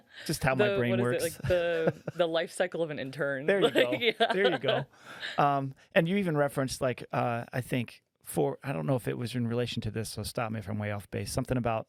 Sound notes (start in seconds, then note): 0.0 laughing; 3.6 laughing